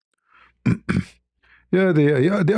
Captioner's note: berdehem